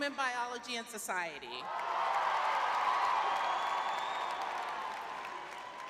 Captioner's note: cheering